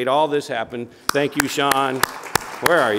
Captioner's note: audience applauding